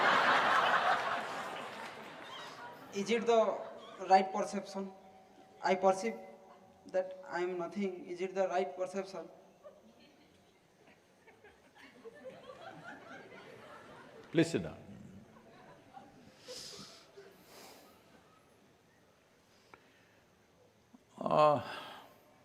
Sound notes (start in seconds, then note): 0.0 laughter; 16.1 few laugh